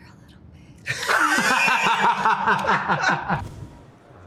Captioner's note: laughter